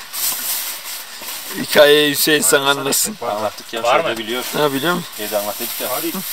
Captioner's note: sound of rain